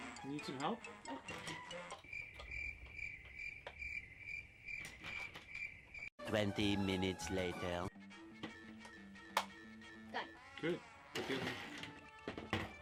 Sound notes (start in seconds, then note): 2.0 crickets chirping